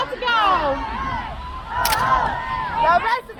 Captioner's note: crowd